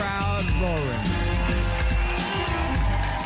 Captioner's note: cheers and applause